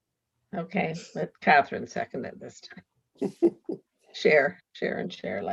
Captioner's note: laughs